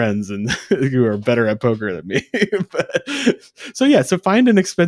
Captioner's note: laughs